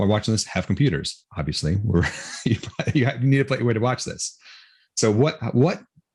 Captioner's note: chuckles